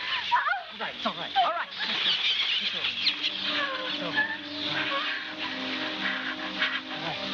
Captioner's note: screaming